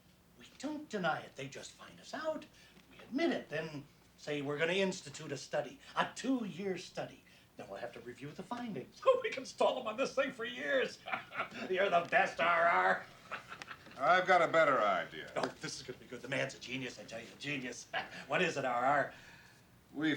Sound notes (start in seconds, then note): 10.6 laughs